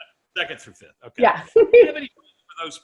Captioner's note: giggles